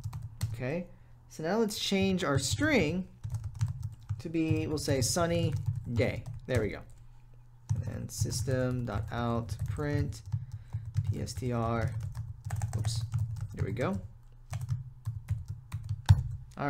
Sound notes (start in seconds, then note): 0.0 typing; 10.5 typing